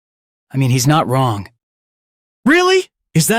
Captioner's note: another silence; even more silence